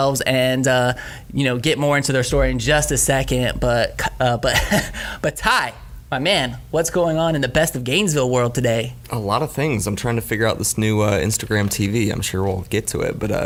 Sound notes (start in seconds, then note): 4.4 laughs